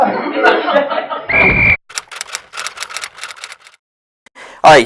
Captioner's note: SFX: Referee’s whistle. Typewriter